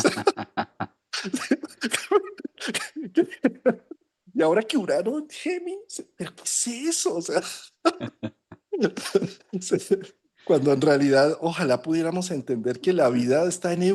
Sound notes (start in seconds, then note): 5.1 laughs